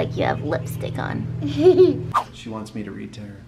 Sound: giggles

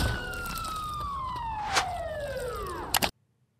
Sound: siren fades; siren thuds; mouse clicks

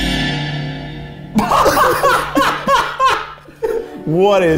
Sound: suspenseful music; laughs

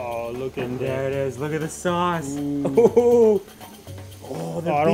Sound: laughs

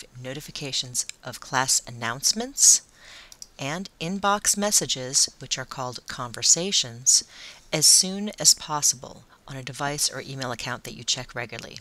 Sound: conversations

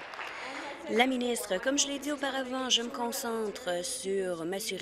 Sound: applause

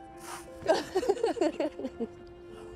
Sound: laughing

